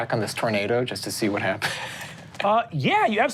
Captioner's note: laughs